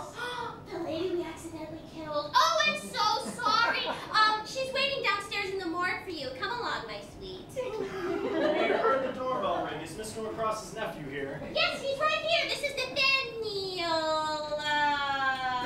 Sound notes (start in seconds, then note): 0.1 Corrine gasps; 0.8 whisper; 7.8 laughter